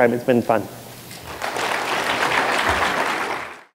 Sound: applause

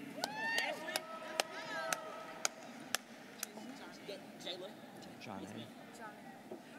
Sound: students cheering

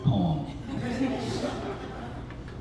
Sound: laughter

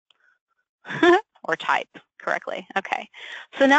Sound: laughs

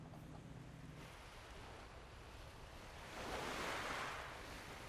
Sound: waves splashing

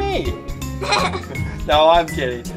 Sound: laughter

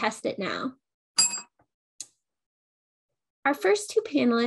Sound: bell rings

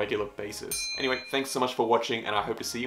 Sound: bell ringing

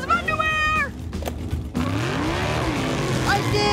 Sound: revving

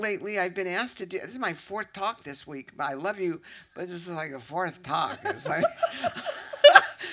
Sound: laughter

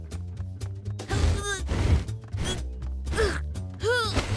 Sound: grunting

